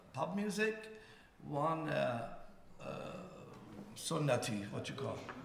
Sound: speaking in farsi

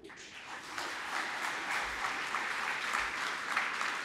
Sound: applause

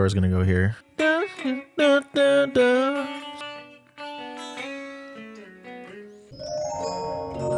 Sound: humming an interpolated version of motif

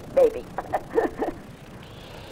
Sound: laughs

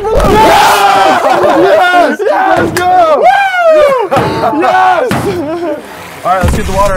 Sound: cheering

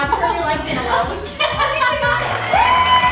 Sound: bell dings; applause

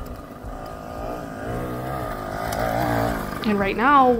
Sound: bike engine revving

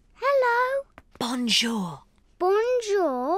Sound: whispering

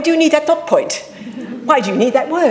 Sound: audience laughing

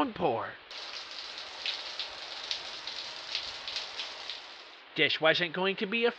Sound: rain

